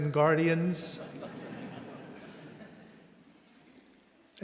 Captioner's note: audience laughing